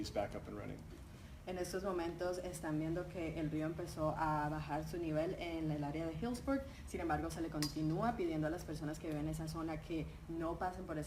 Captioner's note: talking in Spanish